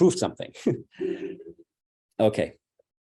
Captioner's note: laughs